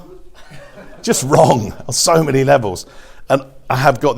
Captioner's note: audience laughs